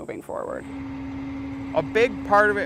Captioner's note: tractor hums